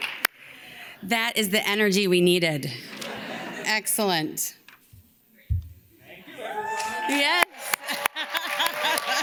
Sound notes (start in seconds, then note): 2.9 audience laughs; 7.7 laughs